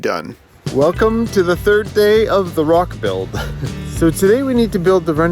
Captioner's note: chuckles